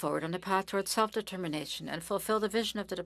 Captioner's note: speaking French